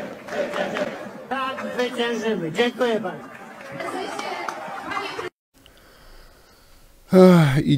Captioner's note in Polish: Aplauz